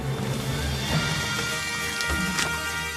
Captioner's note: water splashing; wood knocking